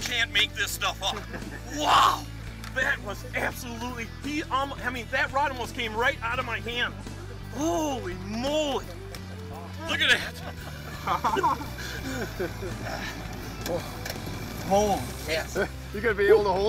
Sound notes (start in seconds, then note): 1.0 laughing; 9.8 laughing